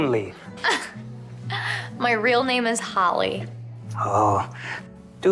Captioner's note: chuckling